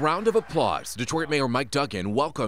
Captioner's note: cheering and applause